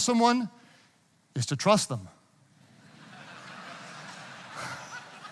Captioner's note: audience laughing